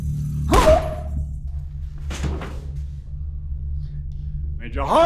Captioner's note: grunting